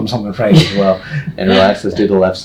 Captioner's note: laughs